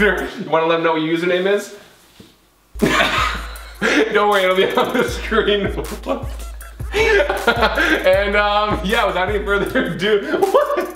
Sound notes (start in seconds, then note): 2.8 laughing; 7.0 laughs loudly